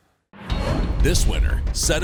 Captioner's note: dramatic music; voiceover